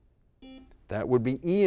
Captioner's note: buzzer beep